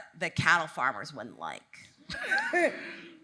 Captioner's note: laughs